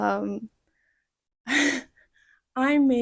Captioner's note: little laughter